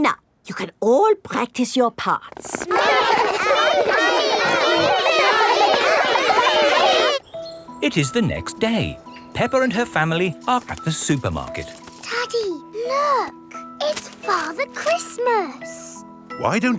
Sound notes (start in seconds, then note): 2.4 all laughing and chattering